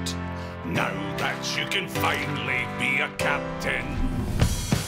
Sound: none

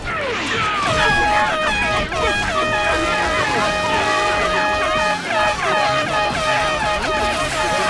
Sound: air horn blaring

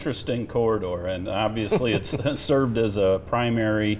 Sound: chuckling

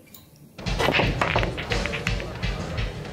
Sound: balls clinking; rock music

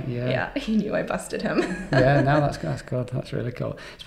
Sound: chuckles

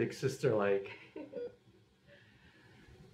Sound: giggles

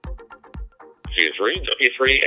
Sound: person on radio

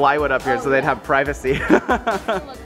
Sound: laughs

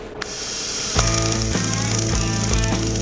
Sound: welding noise; upbeat music

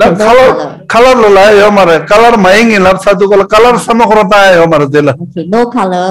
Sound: man speaking in foreign language

